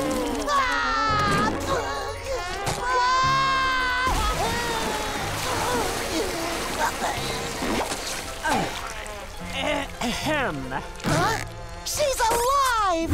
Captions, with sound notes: [crying] [crying] [clearing throat] Huh? She's alive!